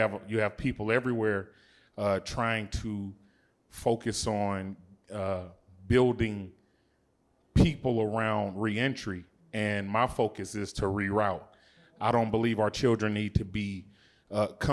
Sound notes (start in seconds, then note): none